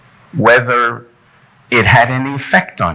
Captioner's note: none